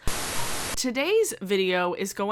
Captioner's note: TV static hisses